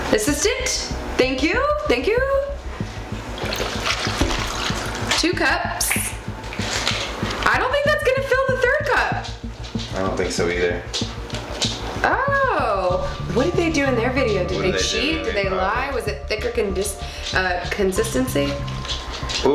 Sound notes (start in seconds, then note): 3.3 pouring